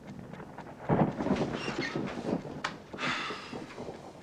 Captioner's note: thunder